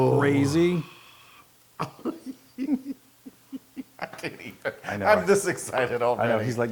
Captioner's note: laugh